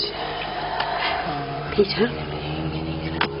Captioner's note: hummnnmnnn